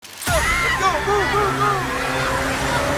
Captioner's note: crowd screams